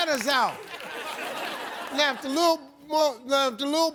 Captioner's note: audience laughs